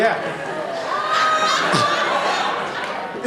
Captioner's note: laughter